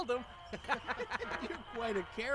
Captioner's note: laughter